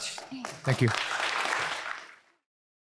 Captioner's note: applause